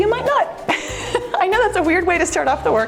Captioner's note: laughs